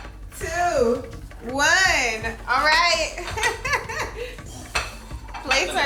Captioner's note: laughing